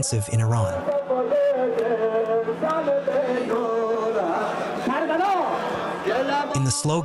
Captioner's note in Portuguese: falando persa